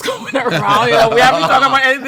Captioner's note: all laughing